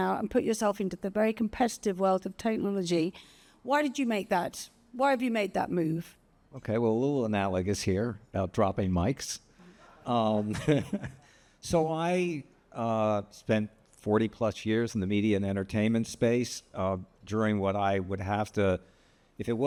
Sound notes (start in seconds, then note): 10.2 chuckles